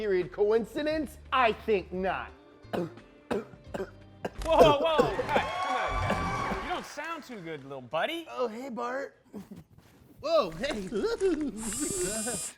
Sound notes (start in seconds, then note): 4.2 coughing; 11.3 electronic buzzing